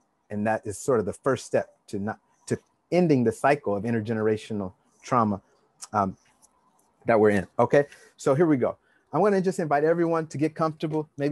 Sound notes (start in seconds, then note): none